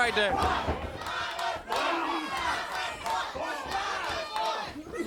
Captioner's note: crowd cheering